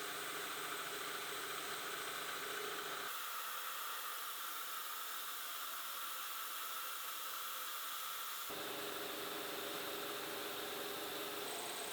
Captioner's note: machine whirring